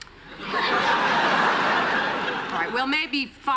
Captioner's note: laughter